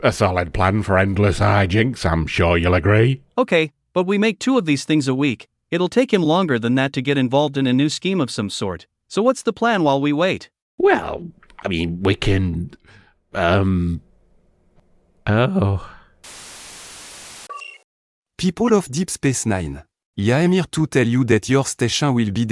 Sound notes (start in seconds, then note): 16.3 static, beep